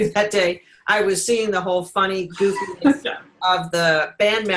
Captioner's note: giggling